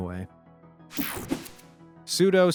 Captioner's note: screen buzzing